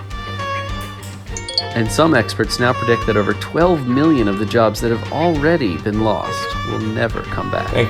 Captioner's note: podcast Voice